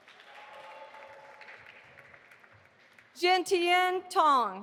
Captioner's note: audience applauding